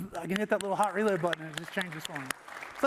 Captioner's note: applause